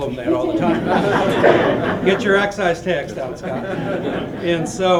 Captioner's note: laughter